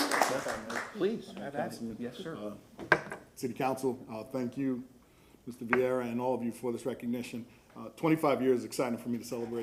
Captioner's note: applause